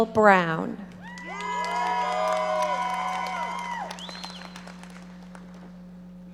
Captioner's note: audience cheering and applauding